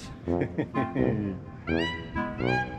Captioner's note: laughs